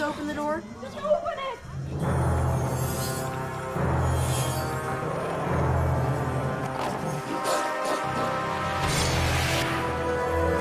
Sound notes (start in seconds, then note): 1.8 dramatic music; 6.7 growling